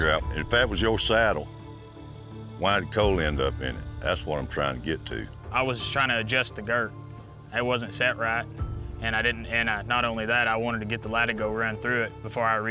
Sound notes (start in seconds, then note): none